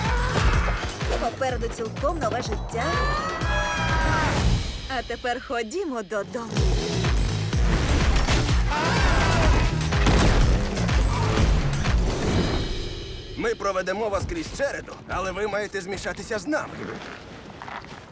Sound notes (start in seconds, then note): 2.8 screaming; 6.2 engine revs